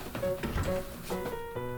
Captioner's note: door closes